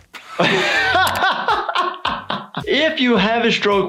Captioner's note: laughs